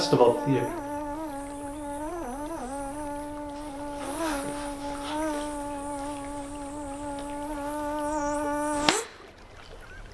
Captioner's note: mosquito buzzing noise; more buzzing noises, followed by a clap; nature sounds and water running through the creek